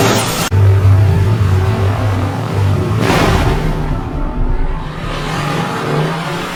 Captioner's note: water crashing; creature rumbling